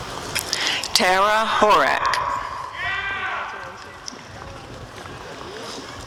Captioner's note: audience cheering